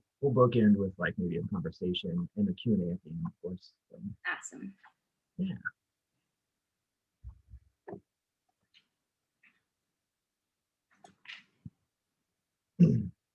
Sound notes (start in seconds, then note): 7.9 clears throat